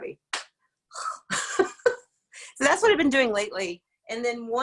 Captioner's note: laughs